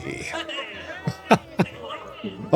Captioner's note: laugh